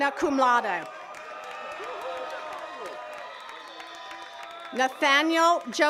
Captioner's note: attendees cheering and clapping